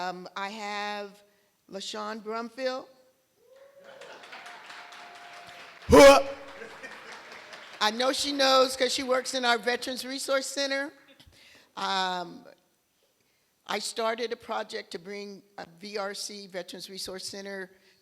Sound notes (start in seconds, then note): 3.6 applause; 6.5 laughter